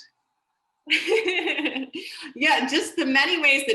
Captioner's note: laughs